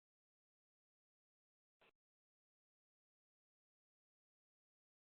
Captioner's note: silence